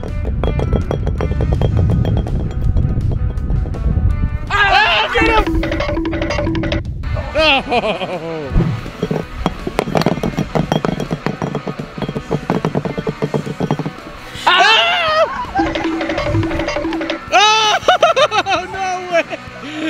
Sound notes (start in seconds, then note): 4.5 screaming; 7.4 laughing; 8.9 upbeat music; 15.6 timer counting down